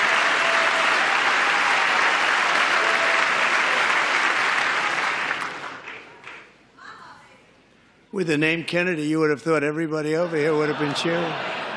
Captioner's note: applause